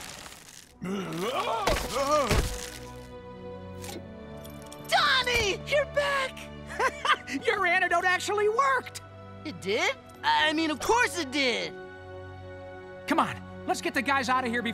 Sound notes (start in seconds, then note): 0.8 groaning; 6.7 chuckling